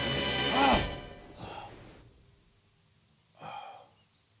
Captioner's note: gasping; labored breathing